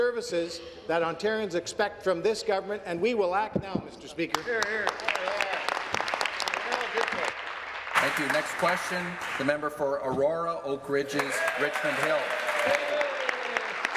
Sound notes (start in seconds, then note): 7.3 applause